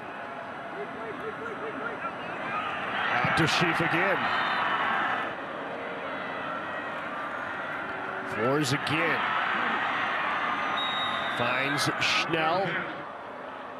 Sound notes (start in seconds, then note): 2.9 fans cheer; 4.4 referee blows whistle; 9.8 fans cheer; 10.6 referee blows whistle